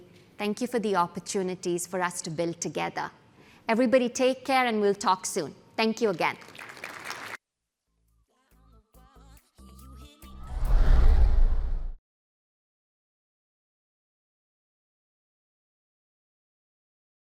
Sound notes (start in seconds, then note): 6.3 applause